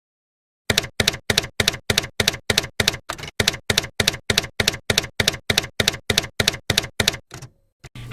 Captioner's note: typewriter keys clacking